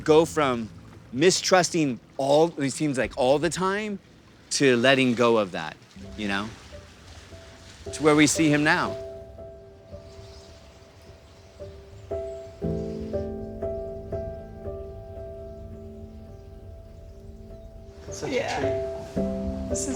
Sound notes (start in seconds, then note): 11.5 birds chirping; 11.5 gentle solemn music